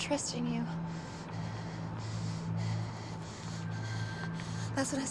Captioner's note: breathing heavily